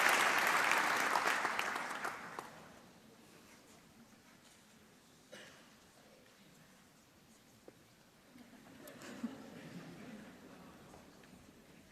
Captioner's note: applause